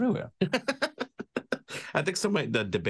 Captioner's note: laughs